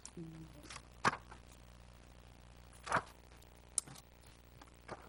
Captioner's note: pages turning